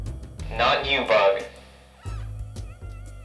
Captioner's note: over intercom